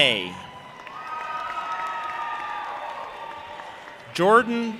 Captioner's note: audience applauding and cheering